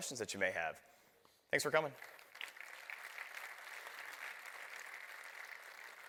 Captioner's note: applause